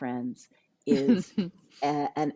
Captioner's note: laughs